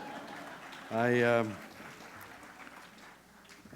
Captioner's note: laughter